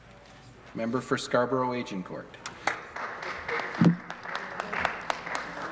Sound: some Applause

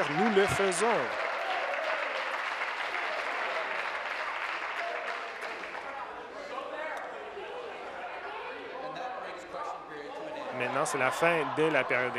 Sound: some Applause

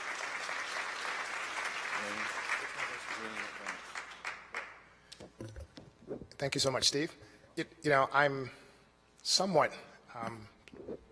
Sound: applause

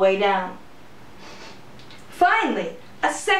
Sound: sniffing

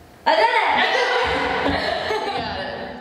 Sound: laughter

